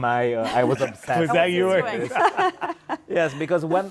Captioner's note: chuckles; all laughing